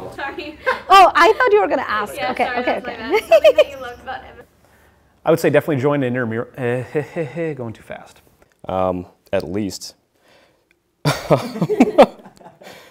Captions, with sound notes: - Try. (laughs) - Oh, I thought you were gonna ask, okay. - Yeah, sorry. That was my bad. Something that you loved about. - I would say definitely join intramural, (sarcastic stutters) going to fast. - At least. (laughs) (woman laughs)